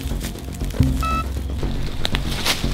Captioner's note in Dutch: piep van dichtbij